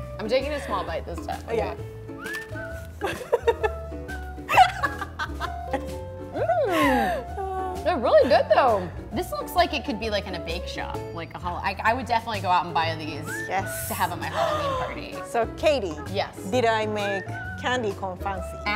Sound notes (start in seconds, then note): 0.1 laughing; 2.3 macaron crunching; 4.5 laughing